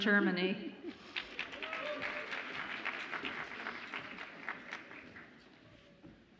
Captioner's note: audience applauds and cheers